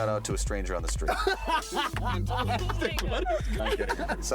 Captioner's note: laughing